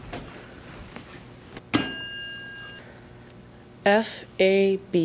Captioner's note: ding